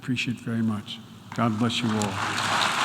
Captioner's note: applause